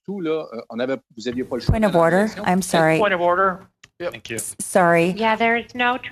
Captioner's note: speaking in French